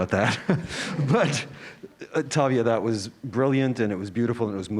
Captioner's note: laugh